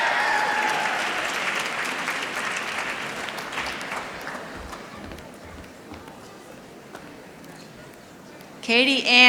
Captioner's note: applause